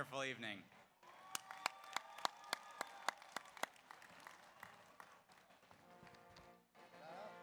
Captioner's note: audience applauds; audience cheers; slow orchestral music